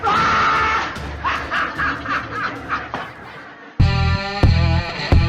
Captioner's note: laughs